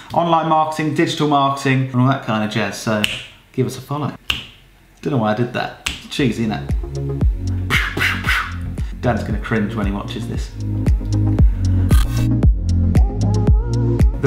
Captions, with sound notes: online marketing, digital marketing, and all that kind of jazz, so (snaps) give us a follow. (snaps) Don't know why I did that. (snaps) Cheesy, isn't it? (makes gun sounds) Dan's gonna cringe when he watches this. (hip music)